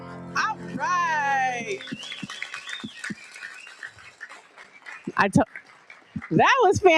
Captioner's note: audience cheers and applauds